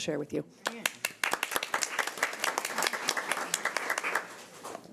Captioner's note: audience applause